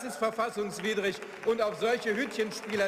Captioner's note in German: Beifall